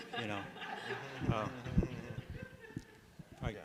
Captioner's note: laughter